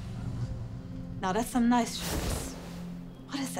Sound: drawer opening; clothes rustling

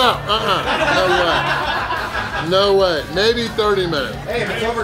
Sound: crowd; crowd

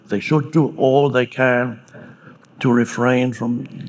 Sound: none

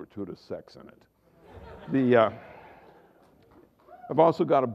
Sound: laughter

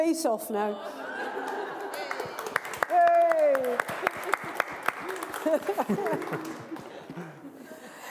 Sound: applause

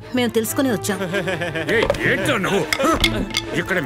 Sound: laughs

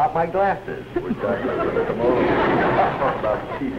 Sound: laughter

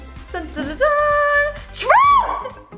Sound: hums a tune

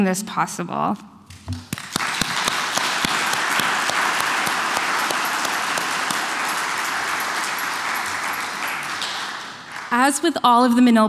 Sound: applauses

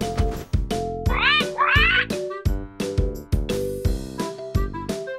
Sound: parrot squawks

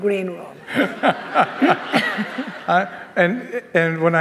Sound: all laughing

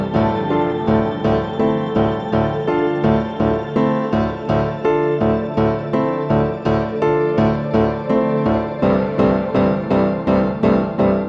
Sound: cheers and applause

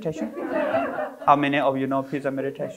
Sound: audience laughing

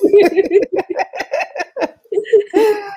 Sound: laughs

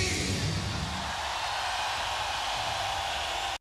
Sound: audience cheers and applauds

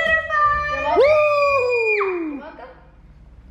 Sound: screaming

